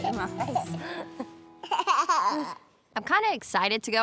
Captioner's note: laughing